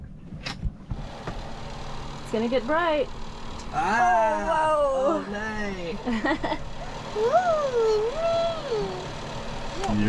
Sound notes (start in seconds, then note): 0.8 motor engine roaring; 3.9 both cheering; 6.0 chuckling; 7.2 cheering